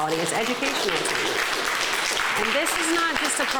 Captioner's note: clapping